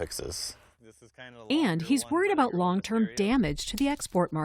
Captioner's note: voice-over